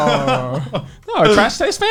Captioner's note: laughs